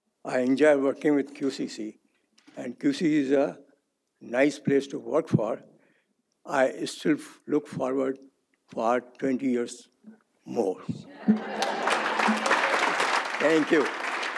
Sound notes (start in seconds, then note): 11.2 audience applauds